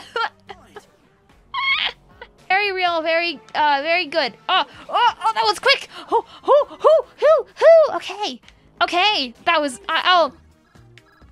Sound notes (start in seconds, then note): 0.0 laughter